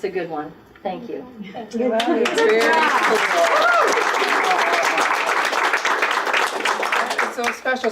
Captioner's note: applause